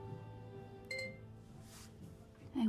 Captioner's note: laptop chimes